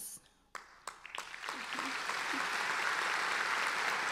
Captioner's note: applauding